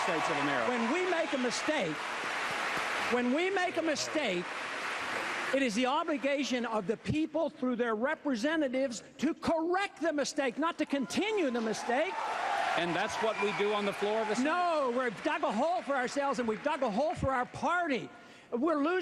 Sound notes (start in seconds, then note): 6.6 cheers; 7.9 interrupted by applause; 11.5 cheers, applause